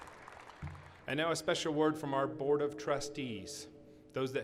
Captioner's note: applause